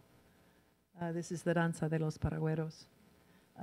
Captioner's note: in foreign language